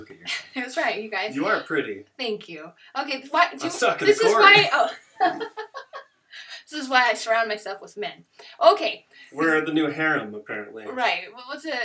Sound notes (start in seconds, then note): 4.1 laughter